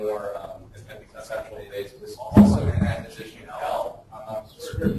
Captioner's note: distorted speech